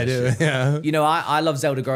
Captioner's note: laughing